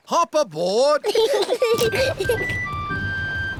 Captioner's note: peppa and george giggling